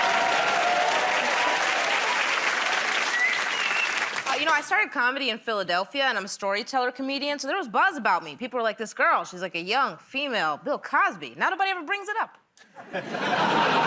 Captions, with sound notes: [ Cheers and applause ] -You know, I started comedy in Philadelphia, and I'm a storyteller comedian, so there was buzz about me. People were like, "This girl, she's like a young female Bill Cosby." Now nobody ever brings it up.